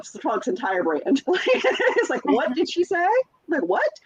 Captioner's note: laughs